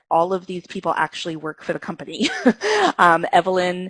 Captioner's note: laughs